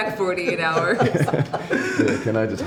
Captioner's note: laughing